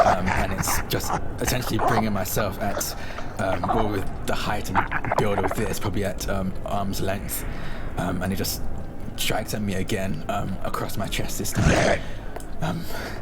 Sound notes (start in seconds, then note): 11.4 creature snarls